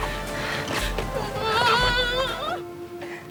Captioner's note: whining